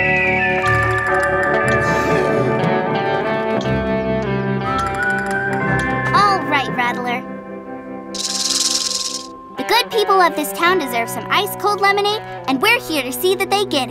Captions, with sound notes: Alright, Rattler. [rattling] The good people of this town deserves some ice cold lemonade, and we're here to see that they get it.